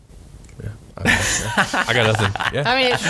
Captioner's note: laughs